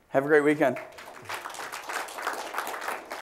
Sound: applause

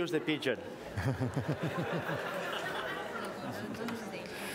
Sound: laughter

